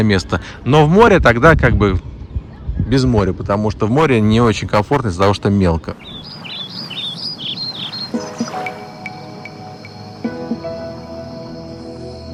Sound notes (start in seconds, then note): 6.0 birds chirping